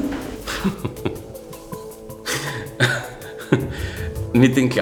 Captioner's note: loughs